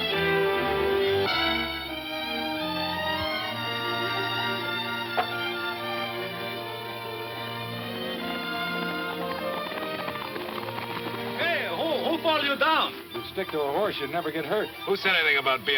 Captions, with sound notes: (gentle orchestral music) (horse hooves clomping) Hey, who fall you down? - If you'd stick to a horse, you'd never get hurt. - Who said anything about bein' hurt?